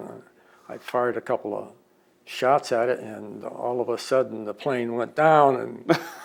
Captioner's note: laughs